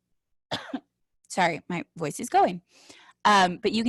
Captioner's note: coughs